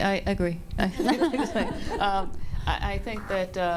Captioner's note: panel laughs